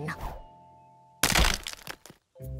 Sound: cracking

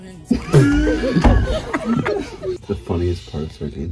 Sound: farting noise

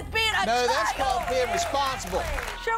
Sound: applause

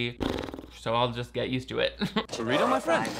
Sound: blowing raspberries

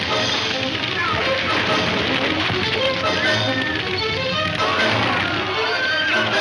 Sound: dramatic music; man shouting

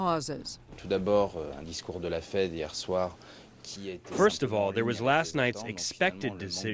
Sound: through translator

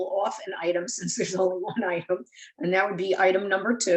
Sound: chuckles

